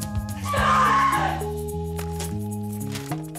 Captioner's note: screaming